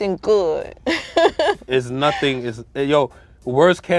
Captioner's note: laughs